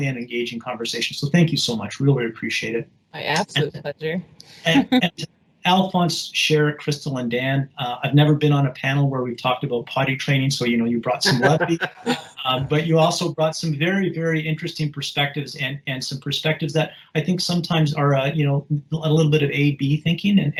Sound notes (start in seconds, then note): 3.1 audio cutting off